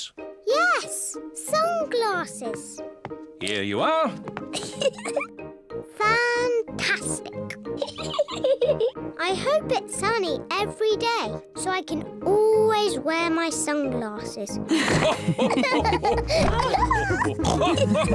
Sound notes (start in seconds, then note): 4.5 laughs; 8.0 laughs; 14.7 all laughing